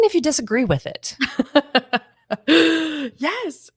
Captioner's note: laughs